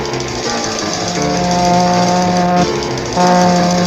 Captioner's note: White Train Driver pulls the Horn